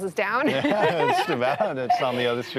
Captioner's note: laughs